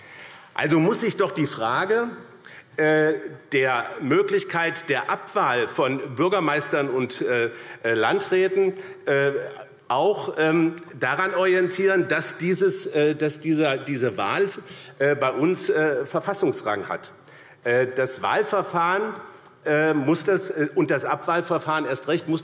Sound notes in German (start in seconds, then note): none